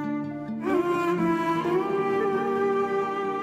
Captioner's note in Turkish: Ağlıyor